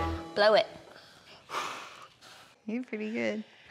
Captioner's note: blowing